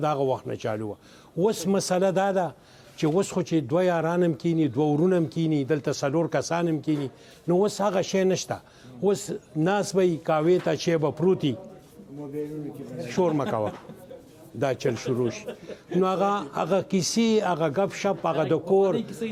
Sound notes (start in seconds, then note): 10.7 laughing